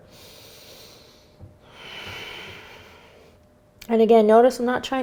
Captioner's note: breathing heavily